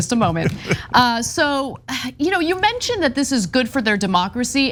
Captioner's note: laugh